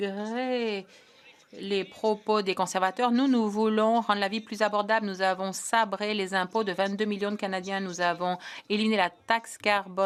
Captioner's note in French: voix de l'interprète